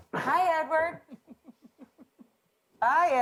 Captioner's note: Dan snickering